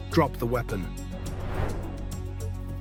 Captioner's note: suspenseful music continues; transition whooshing